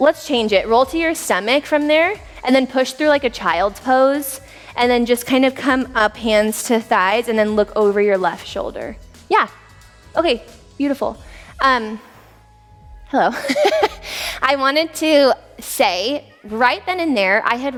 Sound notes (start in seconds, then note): 13.3 laughs